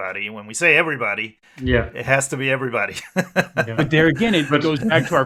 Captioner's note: laughs